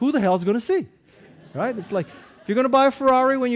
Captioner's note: audience laughing